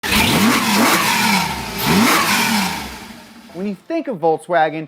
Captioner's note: car engine roaring